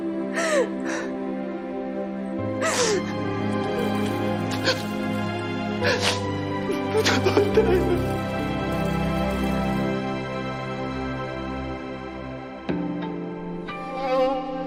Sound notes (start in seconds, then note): 0.0 somber music continues; 2.6 sniffles; 4.3 breath quivers, sniffles; 12.7 dramatic music playing